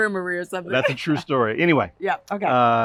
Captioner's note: laughter